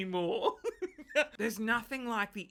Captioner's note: laughs